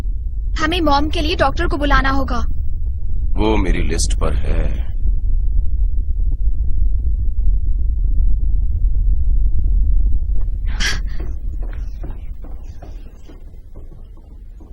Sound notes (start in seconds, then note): 6.8 low rumbling; 10.4 huffs